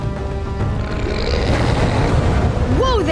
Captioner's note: grunting